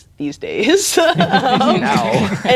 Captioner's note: players laughing